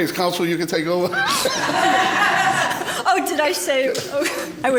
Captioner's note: laughs